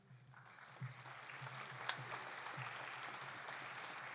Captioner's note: audience applauding